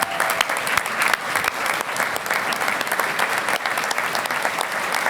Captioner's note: audience applauding